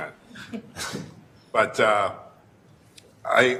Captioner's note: laugh